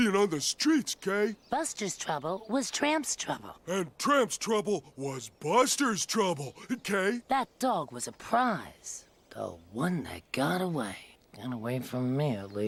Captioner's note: laughs and runs around